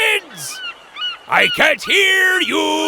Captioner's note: seagull cawing